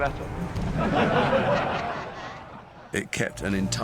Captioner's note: voldemort's followers laugh